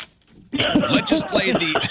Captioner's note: laughing